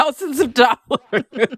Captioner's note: laughter